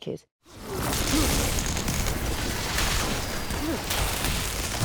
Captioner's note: lightning zapping